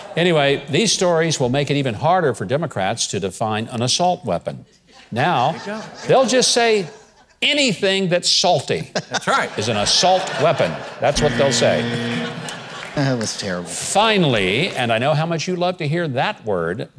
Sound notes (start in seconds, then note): 8.7 crowd laughing; 11.1 buzzer sounds